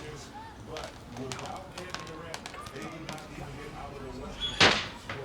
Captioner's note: candies dropping on plastic